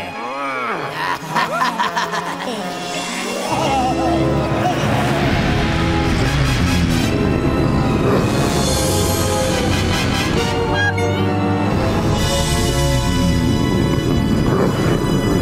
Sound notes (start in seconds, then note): 0.2 laughing; 7.6 growls; 12.1 growls